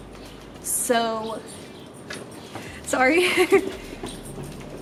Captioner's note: giggles awkwardly